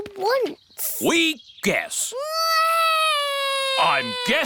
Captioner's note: alexander wails